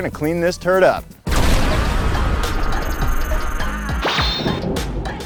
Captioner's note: lightning crashing